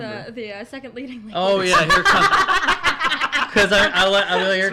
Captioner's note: laughs